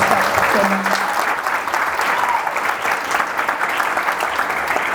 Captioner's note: audience applauds enthusiastically